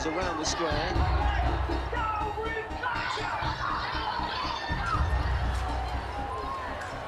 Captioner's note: crowd shouting